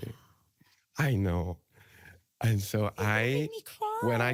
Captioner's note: gasps